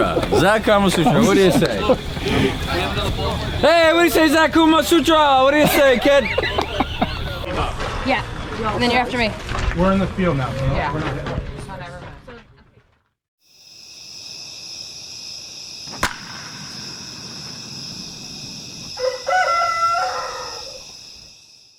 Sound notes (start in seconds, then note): 13.6 crickets; 15.9 crack of baseball bat; 18.8 rooster